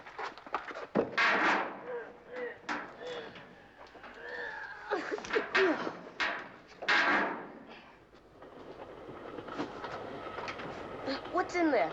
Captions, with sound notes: [straining] [exhaling] [train passing] What's in there?